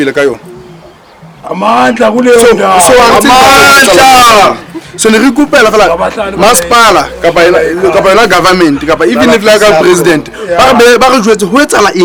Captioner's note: shouting Amandla